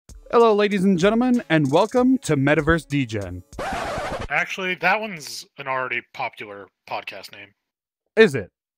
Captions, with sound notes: Hello Ladies and Gentleman and Welcome to Metaverse Degen! *RECORD SCRATCH* Actually.. That one's an already popular podcast name Is it?